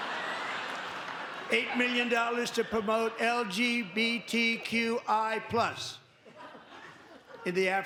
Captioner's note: laughter